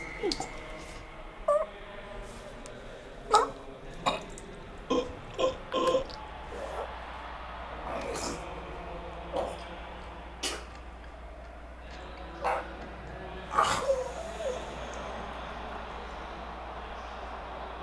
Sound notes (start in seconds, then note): 0.2 Phil groans; 4.8 Phil choking